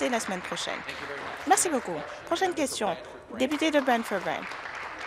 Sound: some Applause

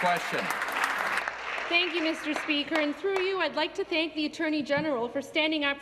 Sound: applause

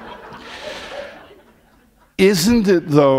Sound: laughter

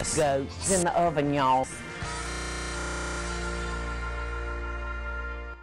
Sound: stutter loop

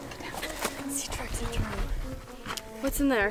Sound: whispering

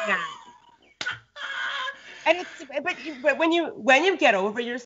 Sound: Brennan laughs

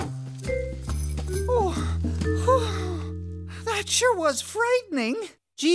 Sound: moaning

